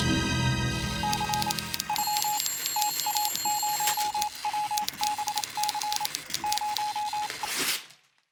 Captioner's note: suspenseful music; telegraph beeping, typing